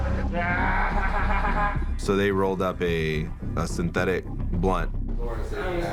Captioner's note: laughing